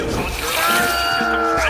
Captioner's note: shouting